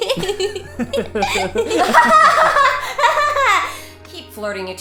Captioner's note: Tifa Laughs Sarcastically; Cloud & Aerith Laugh Happily